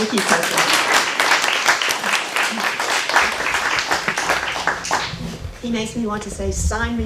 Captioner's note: applause